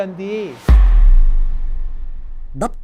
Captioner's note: sound effects